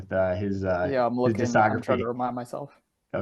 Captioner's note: mouths music